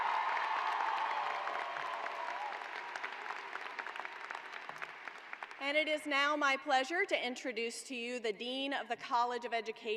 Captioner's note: cheers and applause